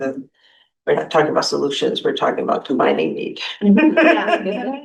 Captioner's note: laughter